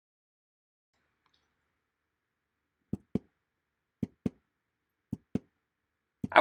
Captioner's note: sound of heartbelt